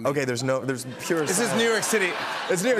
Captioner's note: laughter